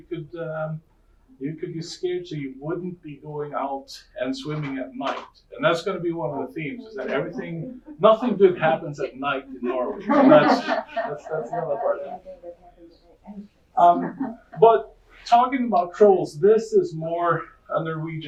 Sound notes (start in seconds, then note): 11.1 audience laughing